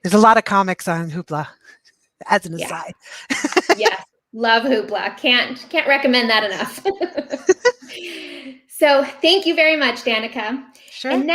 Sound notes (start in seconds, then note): 2.6 chuckles; 6.6 both laughing